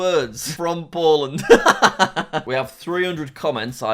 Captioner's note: laughs